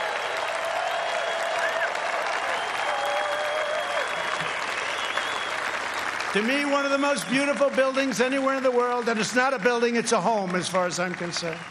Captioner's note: cheers and applause